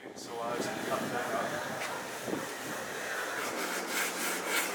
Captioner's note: indistinct chatter